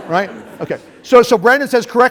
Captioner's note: laughter